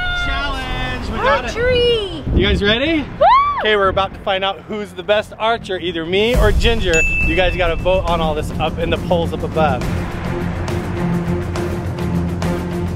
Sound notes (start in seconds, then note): 6.9 ding noise; 10.1 intense music